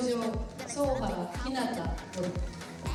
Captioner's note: non-english speech